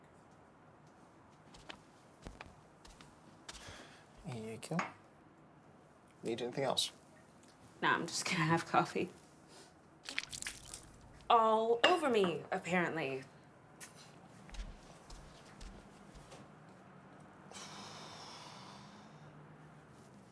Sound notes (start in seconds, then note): 2.1 footsteps plodding; 5.4 mug thudding; 10.0 coffee sloshing; 14.4 footsteps plodding; 17.5 Alex exhaling